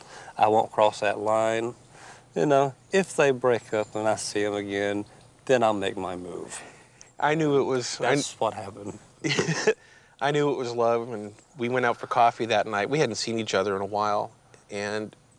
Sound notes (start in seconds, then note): 9.2 laughs